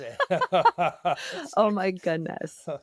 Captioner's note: laughter